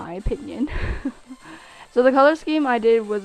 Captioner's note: laugh